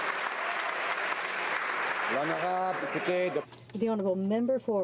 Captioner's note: applause